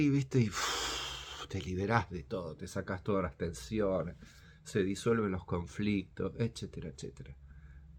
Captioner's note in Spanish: suspiro